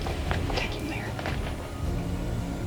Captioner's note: whispering